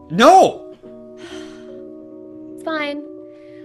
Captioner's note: sigh